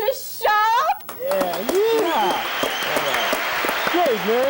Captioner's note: audience applause